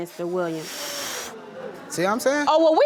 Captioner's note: huffing